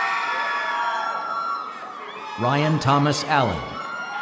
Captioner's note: applause